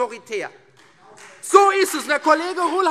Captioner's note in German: Beifall Freie Demokraten und vereinzelt CDU